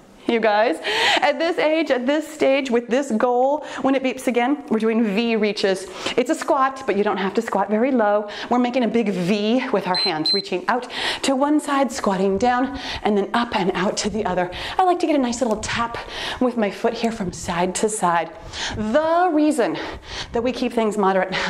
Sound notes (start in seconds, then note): 9.9 timer beeps